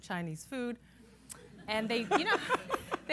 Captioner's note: laughter